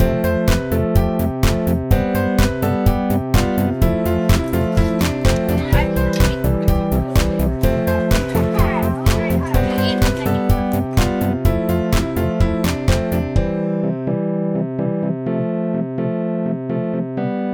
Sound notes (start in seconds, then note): 5.2 muffled children's laughter